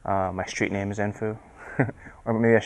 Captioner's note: chuckles